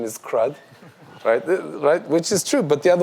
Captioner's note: audience laughs